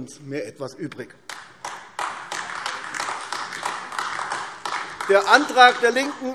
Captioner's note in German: Beifall AfD